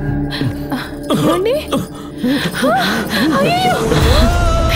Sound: coughs

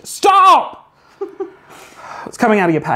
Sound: laughs

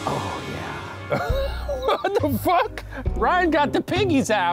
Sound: laughs

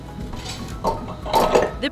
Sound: metal clank

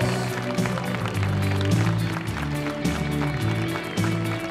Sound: audience applauding

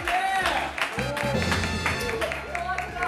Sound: sound effect:ta-da

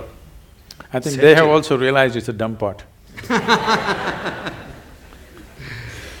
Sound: laughter

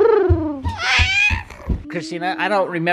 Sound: makes cooing noise

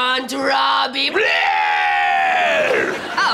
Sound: screaming

